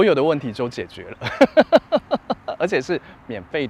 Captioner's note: laughs